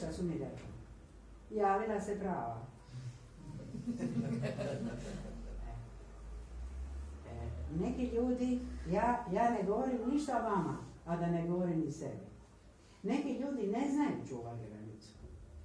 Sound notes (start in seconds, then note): 3.4 laughter